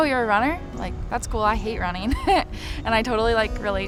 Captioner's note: laughs